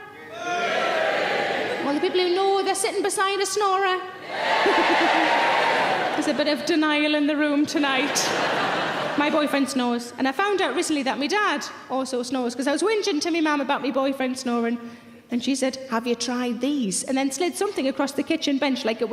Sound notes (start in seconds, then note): 0.3 random audience members shouting; 5.0 random audience members shouting; 7.8 audience laughing loudly